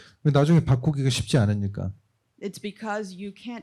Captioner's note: speaking korean